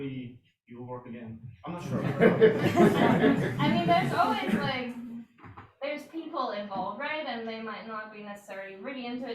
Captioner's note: audience laughter